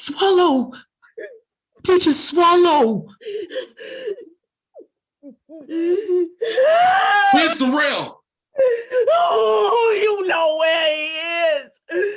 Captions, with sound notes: - Swallow. Peaches, swallow. (Peaches shouts) - Where Durell? - You know where he is.